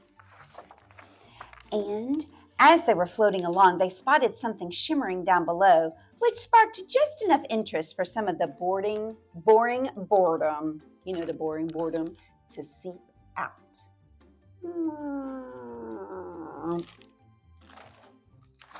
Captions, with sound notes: And as they were floating along, they spotted something shimmering down below, which sparked just enough interest for some of the bording, boring boredom. You know, the boring boredom to seep out. [ Deflating sound]